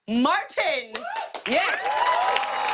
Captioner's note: cheers and applause